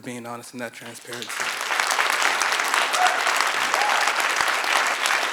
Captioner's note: congregation applauds